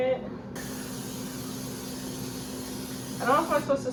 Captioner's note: can spraying